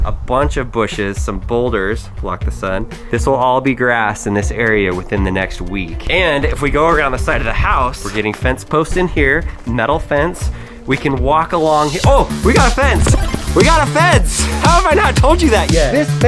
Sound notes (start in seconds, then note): 11.6 electronic music; 13.0 power up sound